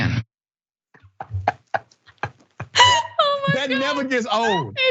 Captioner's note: laugh